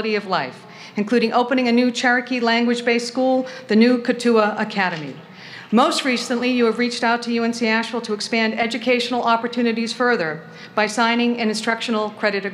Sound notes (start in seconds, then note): none